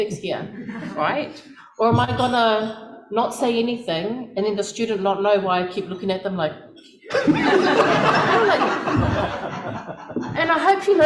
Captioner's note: laughter